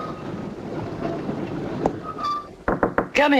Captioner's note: knocking